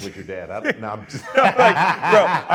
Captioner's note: laughing